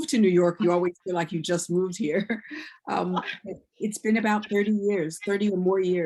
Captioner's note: laughs